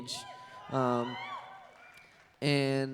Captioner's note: cheering